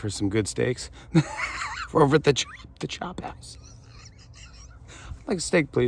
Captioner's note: laughter